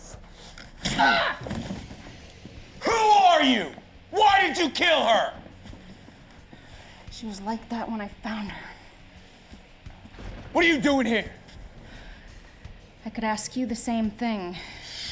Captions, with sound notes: (pistol smashing) (Hunter grunting) Who are you? Why did you kill her? - She was like that when I found her. - What are you doing here? - I could ask you the same thing.